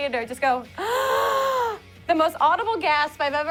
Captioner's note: gasps